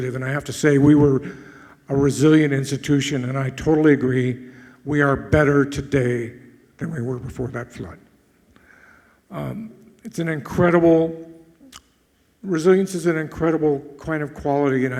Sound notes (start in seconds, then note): none